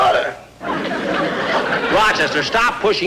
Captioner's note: audience Laughing